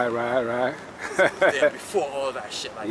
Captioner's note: chuckles